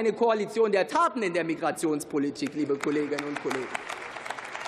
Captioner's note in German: Beifall